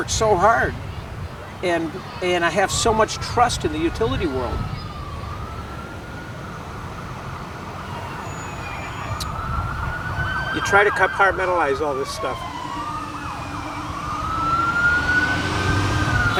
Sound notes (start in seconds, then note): 6.0 sirens; 13.8 sirens and bus